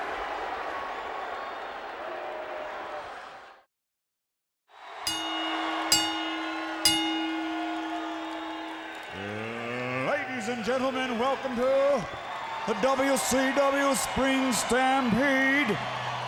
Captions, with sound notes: (bell ringing) Ladies and gentlemen, welcome to the "WCW Spring Stampede"